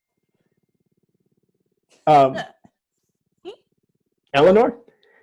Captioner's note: eleanor giggles